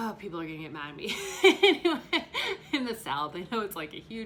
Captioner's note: laughs